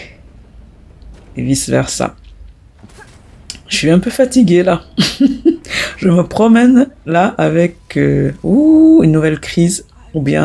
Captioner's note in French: Rires